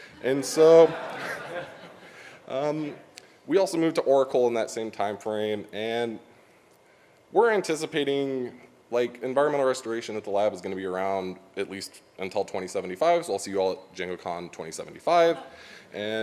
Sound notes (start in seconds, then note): 0.0 audience laughs